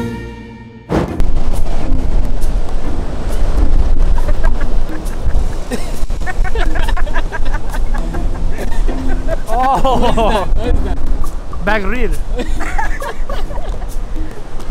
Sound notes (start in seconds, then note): 0.8 ضحك